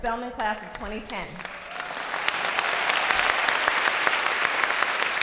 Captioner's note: applause